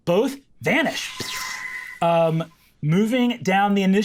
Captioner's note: energy whooshing